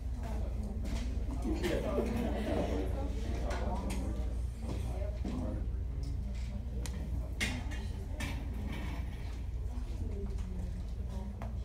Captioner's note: students chatting